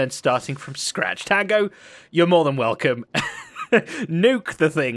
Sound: chuckles

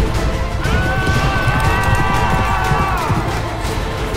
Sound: dramatic music; thief yelling

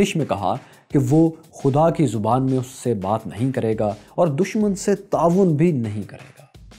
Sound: Arabic

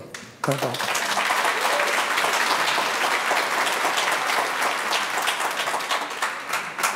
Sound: audience applauding

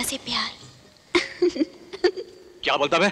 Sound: laughs

